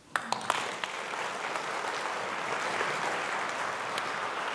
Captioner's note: audience clapping